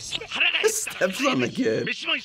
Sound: laughing

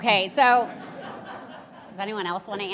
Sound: audience laughing

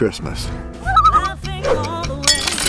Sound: loon call

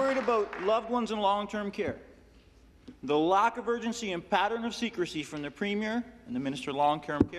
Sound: some Applause

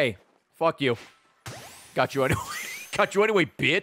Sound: laughs

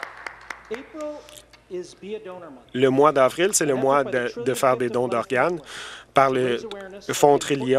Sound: some Applause

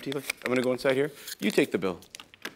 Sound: paper crinkling

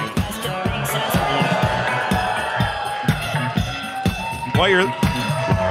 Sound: audience cheers

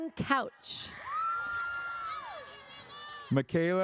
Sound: audience cheers

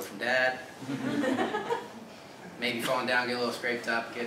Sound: laugh

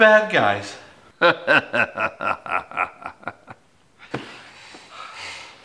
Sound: laughs malevolently

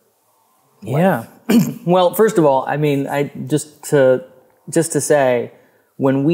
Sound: clears throat

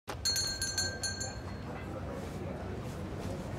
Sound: bell rings

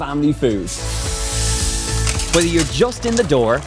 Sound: sizzling

